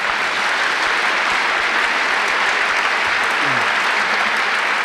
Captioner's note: applause